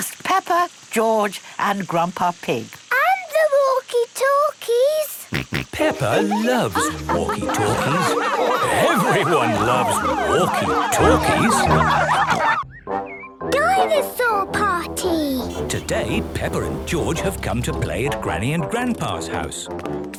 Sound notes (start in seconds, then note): 5.3 George snorting; 11.1 laughter; 11.9 snorting